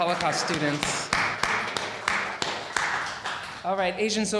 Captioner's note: audience applauding